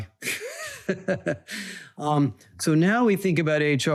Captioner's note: laughs